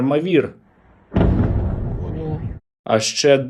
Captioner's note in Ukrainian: вибух